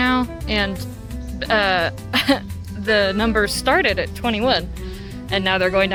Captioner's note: chuckles